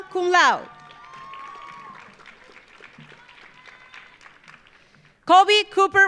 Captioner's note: audience cheering; audience applauding